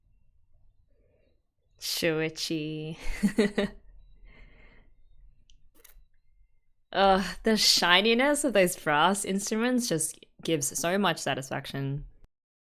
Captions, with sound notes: Shuuichi... [laughs] Oh! The shininess of those brass instruments just gives so much satisfaction.